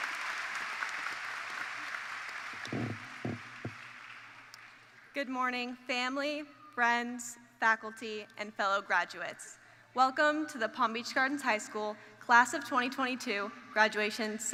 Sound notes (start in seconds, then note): 0.0 cheers and Applause